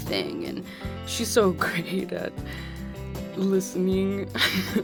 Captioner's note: laughing